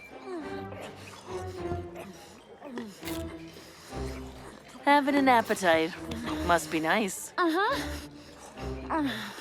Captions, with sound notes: [happy music] Having an appetite. Must be nice. [Mischa grunts]